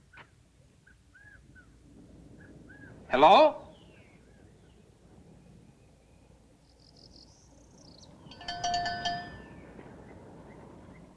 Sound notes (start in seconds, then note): 8.2 cowbell ringing